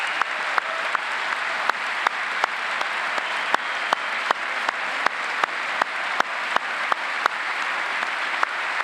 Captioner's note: applause